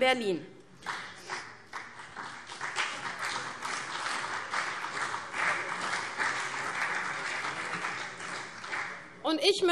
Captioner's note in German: Beifall CDU und BÜNDNIS 90/DIE GRÜNEN